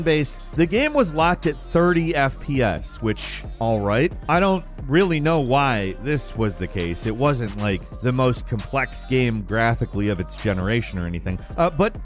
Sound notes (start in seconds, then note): none